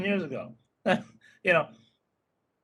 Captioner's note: laughing